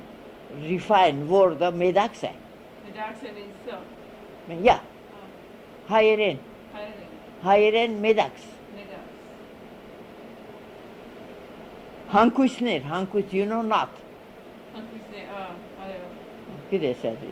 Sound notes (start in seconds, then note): 4.9 in Armenian